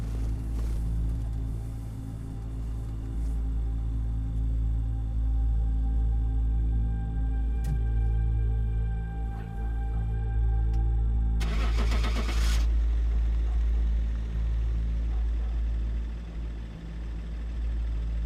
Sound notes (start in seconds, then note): 0.2 soft tense music; 11.4 engine starts